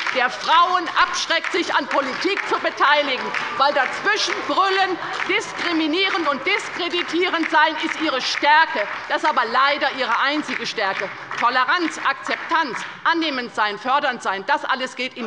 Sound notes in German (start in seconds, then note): 11.0 Beifall bei der LINKEN und der SPD